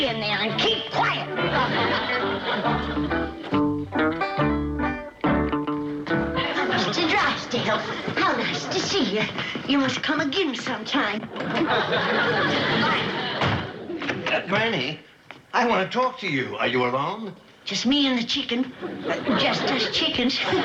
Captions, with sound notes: Now stay in there and keep quiet! Mr. Drysdale, how nice to see ya. You must come again sometime. Bye! Granny, I want to talk to you. Are you alone? Just me and the chicken... Uh, just us chickens. (chuckles)